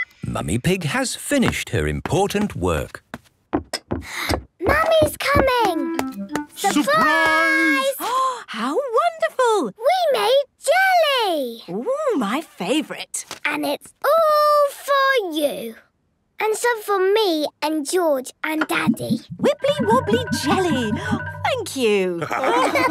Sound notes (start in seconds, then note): 4.0 footsteps approaching; 8.6 gasps